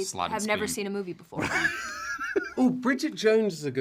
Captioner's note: laughter